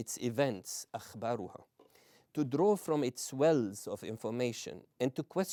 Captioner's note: non-english